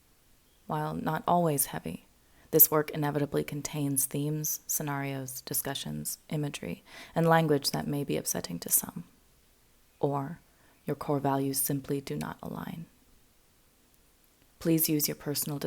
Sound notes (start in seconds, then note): none